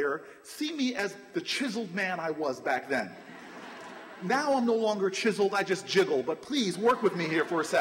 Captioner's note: laughter